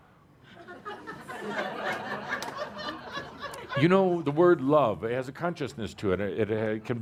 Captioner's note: laughter